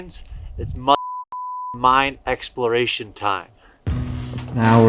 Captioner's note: beep